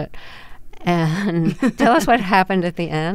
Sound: laughter

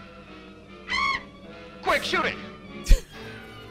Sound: bat shrieks

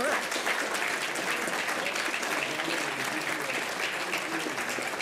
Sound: applause

